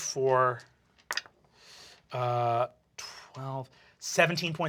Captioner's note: rolls dice